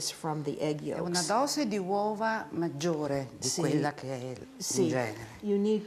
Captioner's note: speaking Italian